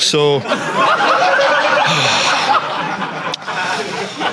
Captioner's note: audience laughing